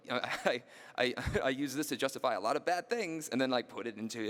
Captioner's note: laughing